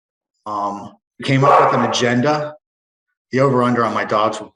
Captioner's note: dogs barking